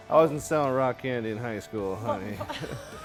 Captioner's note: laughing